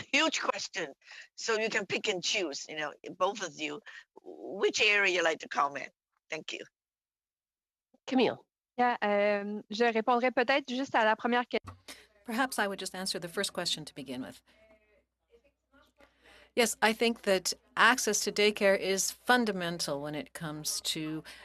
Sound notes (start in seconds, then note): 14.6 speaking French